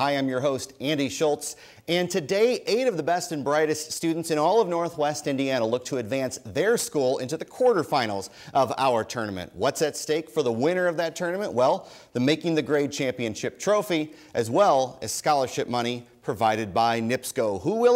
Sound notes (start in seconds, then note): none